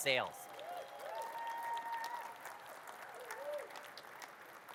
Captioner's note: audience cheers and claps